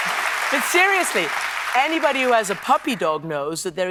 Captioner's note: applause